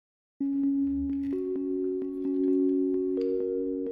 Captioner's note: rhythmic dinging